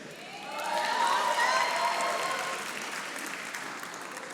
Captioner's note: audience applauding